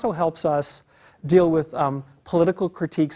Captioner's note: none